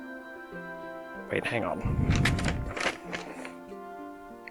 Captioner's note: paper rustling